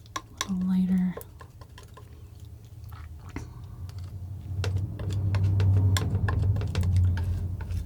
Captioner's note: tapping